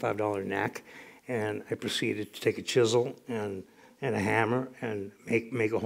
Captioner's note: none